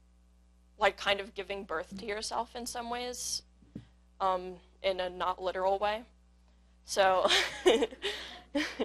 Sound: laugh

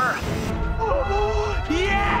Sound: gasping

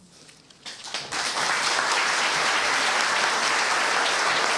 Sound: applause

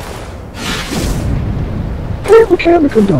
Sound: zoom

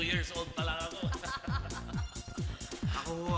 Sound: laughs; laughter

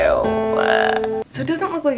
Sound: crying

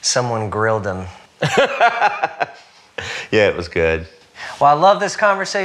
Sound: laughs

